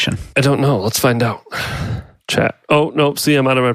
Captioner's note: sighs